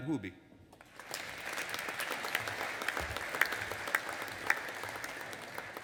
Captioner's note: audience applauding